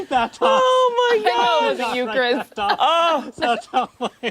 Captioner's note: laughter